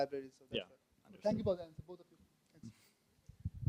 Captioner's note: voiceover